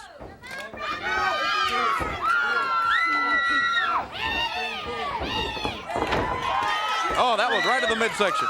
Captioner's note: crowd chatter